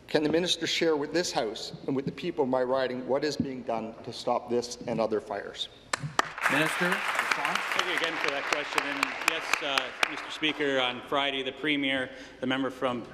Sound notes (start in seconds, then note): 8.4 applause